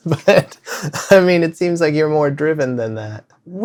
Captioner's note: laughter